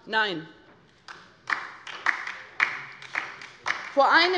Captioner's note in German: Beifall bei der LINKEN